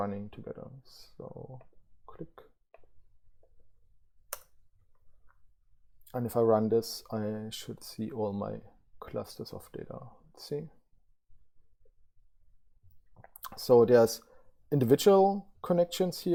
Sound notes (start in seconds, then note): 4.3 mouse clicking